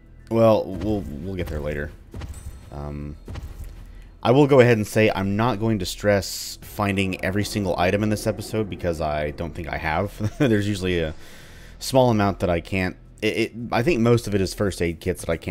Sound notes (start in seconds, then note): 9.9 chuckles